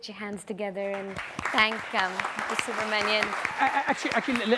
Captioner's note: audience applauds